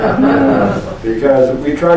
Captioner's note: laughter